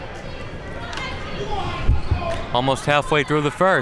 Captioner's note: crowd talking